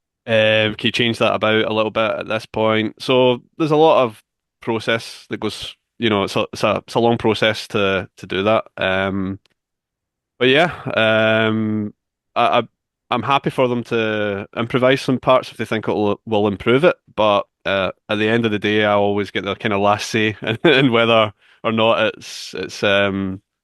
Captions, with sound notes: "Can you change that about a little bit at this point?" So there's a lot of process that goes... It's a long process to do that. But yeah, I'm happy for them to improvise some parts if they think it will improve it. But at the end of the day, I always get the last say [chuckles] in whether or not it